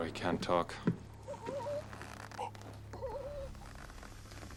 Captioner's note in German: Keuchen